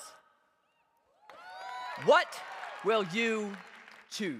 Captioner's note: cheers